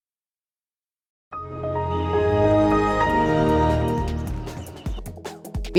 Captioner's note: windows XP startup